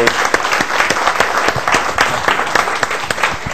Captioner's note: applause